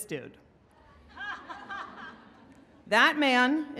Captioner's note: laughing